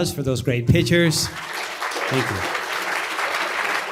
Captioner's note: applause